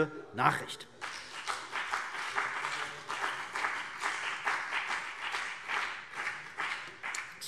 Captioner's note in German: Beifall BÜNDNIS 90/DIE GRÜNEN und vereinzelt CDU